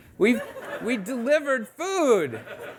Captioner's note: audience laughing